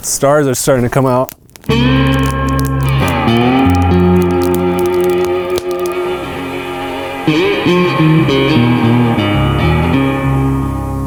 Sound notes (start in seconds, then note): 2.0 fire crackling; 2.0 somber music